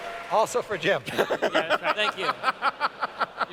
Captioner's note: laughs